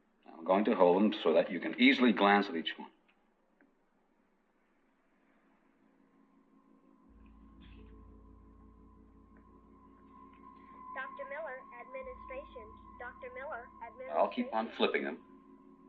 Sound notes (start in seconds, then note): 5.8 eerie music; 10.8 woman on PA